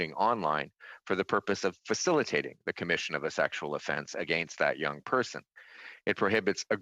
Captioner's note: speaking in French